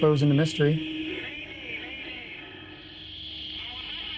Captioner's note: man on radio